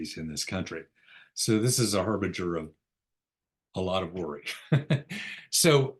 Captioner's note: laughs